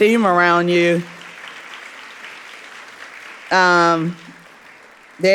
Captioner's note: audience applauding